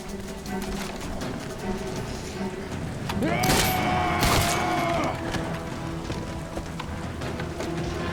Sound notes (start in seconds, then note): 2.4 shouting